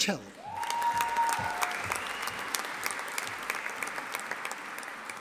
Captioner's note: audience applauding